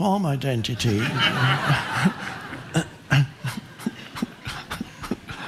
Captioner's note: audience laughing